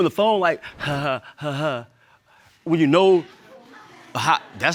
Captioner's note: imitates laughter; audience laughs